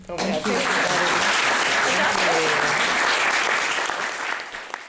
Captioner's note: audience applauding